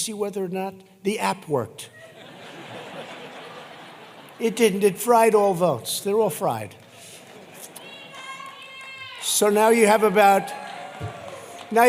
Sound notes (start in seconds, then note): 1.9 laughter; 11.1 applause